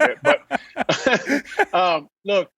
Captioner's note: laughing